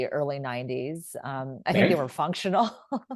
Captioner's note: laughs